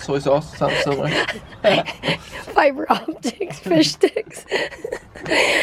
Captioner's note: laughing